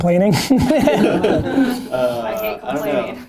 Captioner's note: laughter